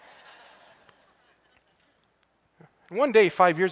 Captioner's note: laughter